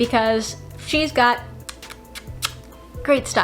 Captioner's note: chef's kisses